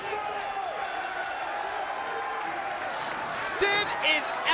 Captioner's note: bell rings